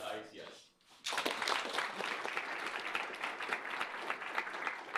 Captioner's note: applause